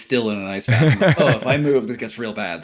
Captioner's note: chuckling